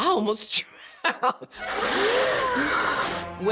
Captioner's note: chuckles; gasping